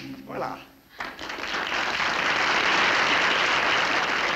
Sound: applause

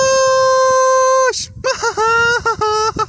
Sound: laughs

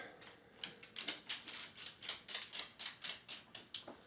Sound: clicking

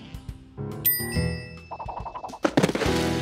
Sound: bell dings

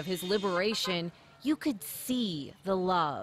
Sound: honking

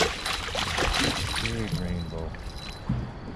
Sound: fish splashing; jangling

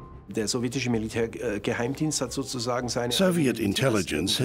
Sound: speaking German

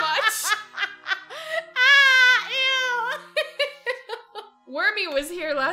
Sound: laughs

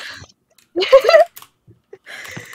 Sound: laughing

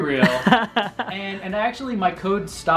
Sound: laughs

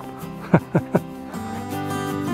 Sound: laughter

